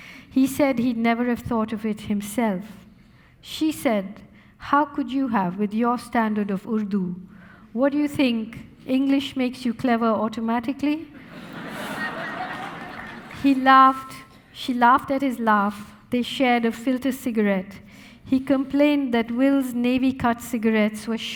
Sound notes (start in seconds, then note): 11.2 audience laughing